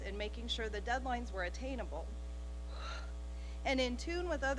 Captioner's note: exhaling